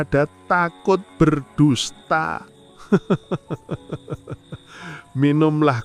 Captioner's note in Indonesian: tertawa